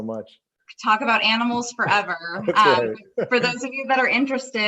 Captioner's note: laughs